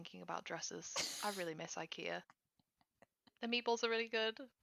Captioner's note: laughs